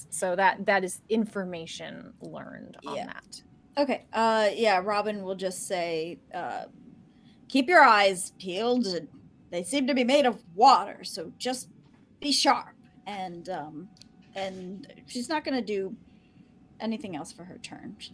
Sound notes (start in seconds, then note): none